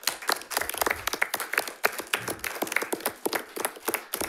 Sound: audience applauding

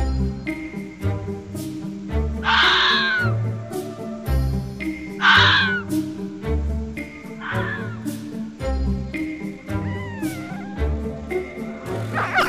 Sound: fox Sounds

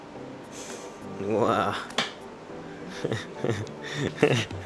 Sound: laughs

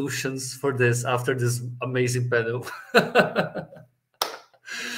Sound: laughs

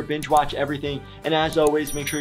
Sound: computer mouse clicks

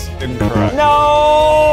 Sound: beep

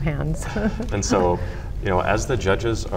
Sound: laughs softly

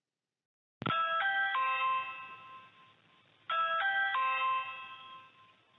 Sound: doorbell ringing

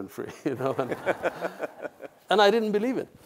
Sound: laughs

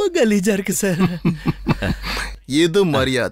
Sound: laughs

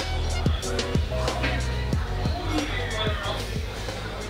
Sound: exhales

